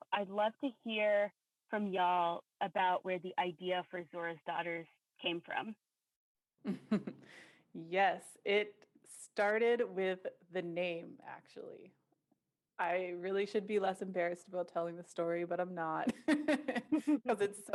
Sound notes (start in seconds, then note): 6.7 laughs; 16.0 laughter